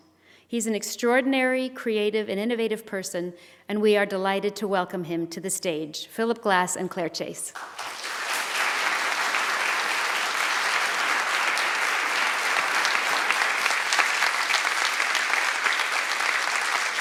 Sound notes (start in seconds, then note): 8.4 applause